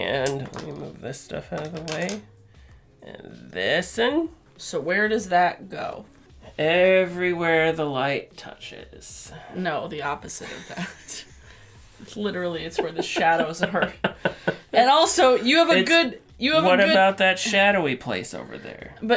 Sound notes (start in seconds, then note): 10.4 laughter; 14.2 laughter